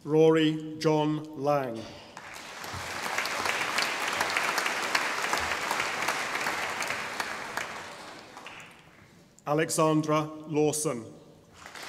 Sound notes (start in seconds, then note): 2.1 audience applauding; 11.5 audience applauding